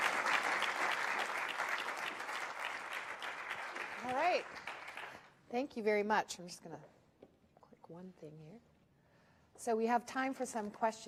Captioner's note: applause